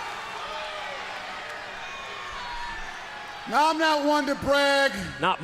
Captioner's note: crowd chatter